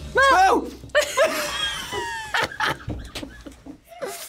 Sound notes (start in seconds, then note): 0.9 both laugh